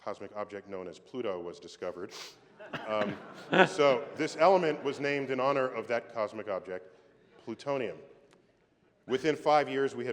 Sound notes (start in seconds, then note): 2.6 laughter